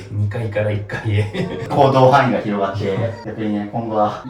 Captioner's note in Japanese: 笑い